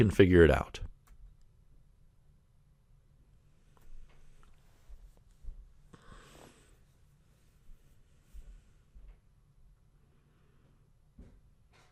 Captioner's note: pause